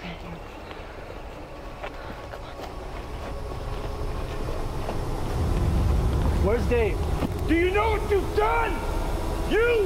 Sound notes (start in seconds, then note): 3.4 hollow rumbling